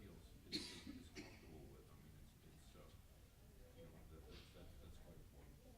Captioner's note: coughing drowns out speaking